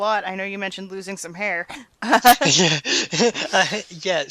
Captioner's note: laughs